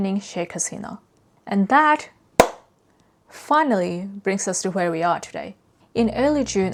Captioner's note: claps